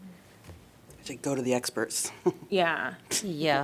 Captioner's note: laughter